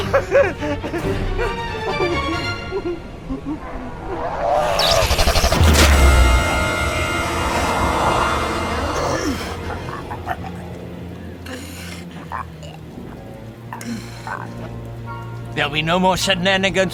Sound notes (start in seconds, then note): 2.7 Bob whimpering; 3.3 vampire growling; 4.7 lights buzzing; 5.4 blow thuds; 5.5 tense music; 9.6 vampire gurgling